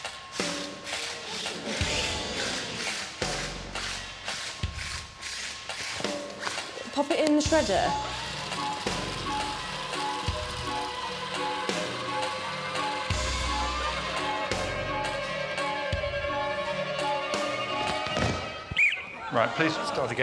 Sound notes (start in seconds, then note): 0.1 upbeat music; 2.2 circles scraping on floor; 3.6 audience gasping; 4.7 circles scraping on floor; 10.0 shredder buzzing